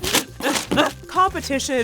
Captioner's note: grunting